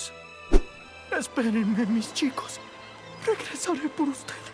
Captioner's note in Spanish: Susurra en voz baja